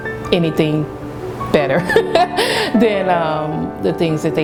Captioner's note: laughing